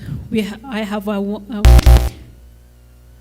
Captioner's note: microphone feedback